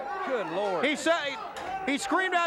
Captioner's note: crowd chatter